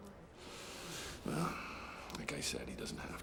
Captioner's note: breathes deeply